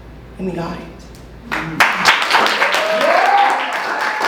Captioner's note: applause; so much applause